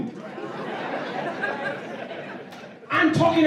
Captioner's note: laughter